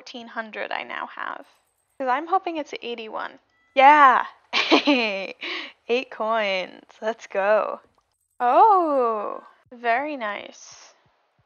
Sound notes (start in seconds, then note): 4.5 laughs